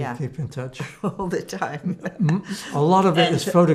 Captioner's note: laughing